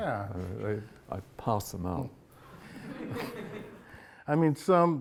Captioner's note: audience chuckles